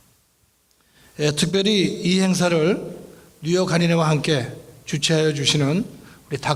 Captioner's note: speaking in foreign language